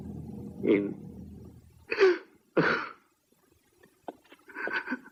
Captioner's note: sobs